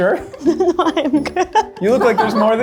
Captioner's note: laughs